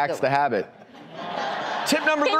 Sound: audience laughs

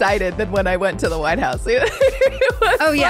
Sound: laughs

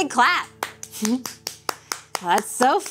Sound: hands clapping

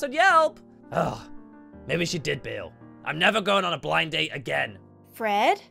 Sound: sigh

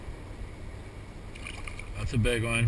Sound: splash

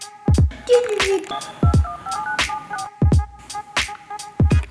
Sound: phone dialing; upbeat music

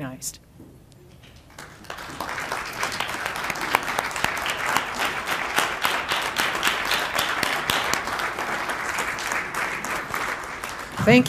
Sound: applause

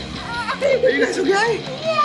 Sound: kids laughing

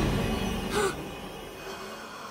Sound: gasping

